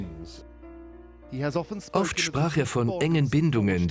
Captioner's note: voiceover